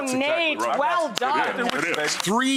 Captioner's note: audience clapping